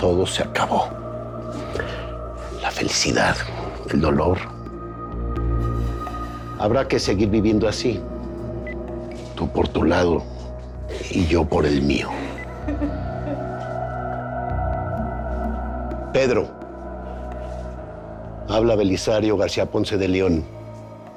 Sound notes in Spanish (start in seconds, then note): 12.0 Sollozos